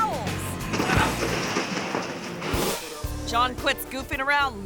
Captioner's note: paper towels thud